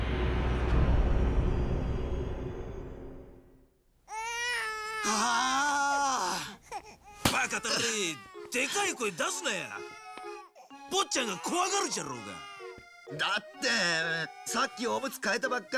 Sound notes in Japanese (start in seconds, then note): 4.1 泣き声; 4.2 叫び声